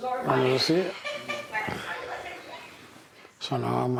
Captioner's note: woman laughing